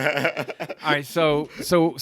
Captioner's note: laughing